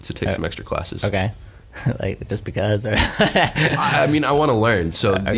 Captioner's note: laughs